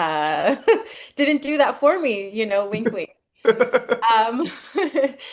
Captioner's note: laughs